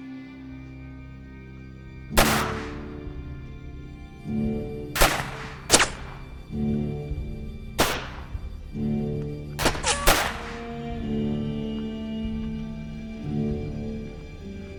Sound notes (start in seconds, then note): 2.1 guns firing; 10.9 soft tense orchestral music